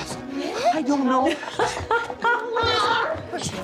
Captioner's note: laughing